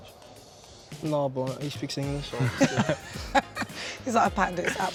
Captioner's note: friends chuckling